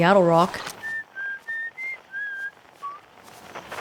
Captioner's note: whistle signal